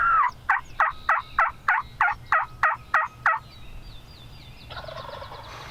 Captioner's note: turkey call chirping; turkey gobbling